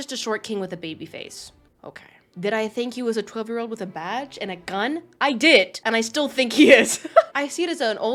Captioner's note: laughs